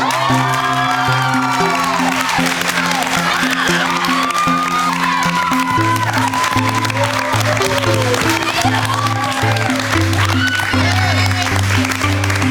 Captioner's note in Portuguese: Gritos